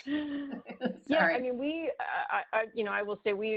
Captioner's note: laughs